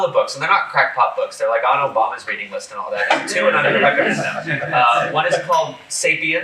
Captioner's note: laughter